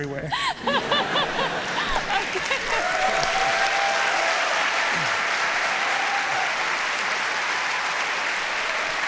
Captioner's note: applause